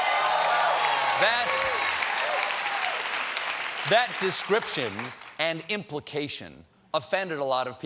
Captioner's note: cheers and applause